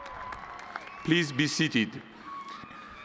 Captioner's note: applause